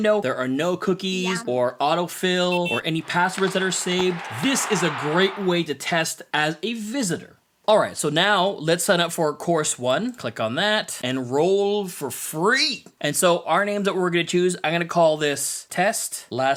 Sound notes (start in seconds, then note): 2.5 cute car honks; 2.6 hockey shot, crowd cheering!